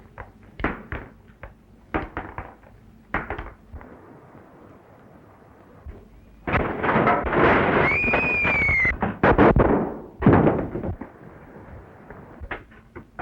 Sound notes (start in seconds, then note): 7.8 mary screams; 9.4 gunshots